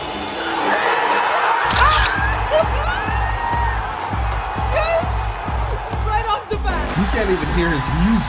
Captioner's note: Fans pop for CM Punk’s music